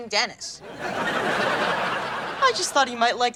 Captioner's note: audience laughing